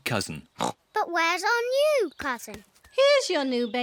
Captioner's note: oinks